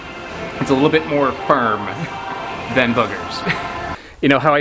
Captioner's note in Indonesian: tertawa